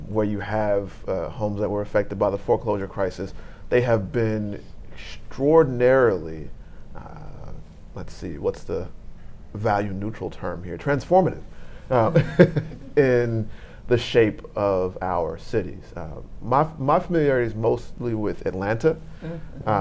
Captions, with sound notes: where you have homes that were affected by the foreclosure crisis. They have been extraordinarily, let's see, what's the value-neutral term here. Transformative. (laughing) In the shape of our cities. My familiarity is mostly with Atlanta